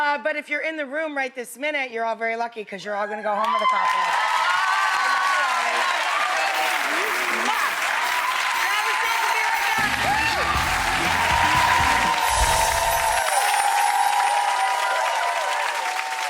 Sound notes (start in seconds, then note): 4.0 audience cheering; 10.9 audience cheering